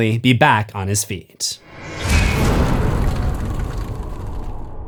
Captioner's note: impact